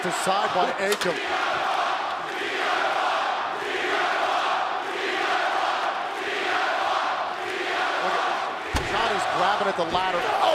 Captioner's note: crowd cheering